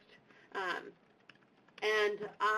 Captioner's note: typing